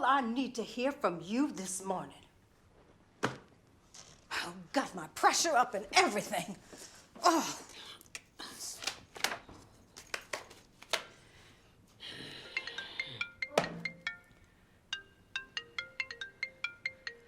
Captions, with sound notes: to hear from you this morning. Oh, got my pressure up and everything! Ugh! (gloves smacking harshly) (Beverly growls) (phone ringing brightly)